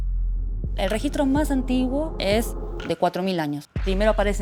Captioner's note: speaking Spanish